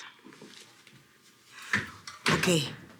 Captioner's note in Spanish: Sonido al abrir la puerta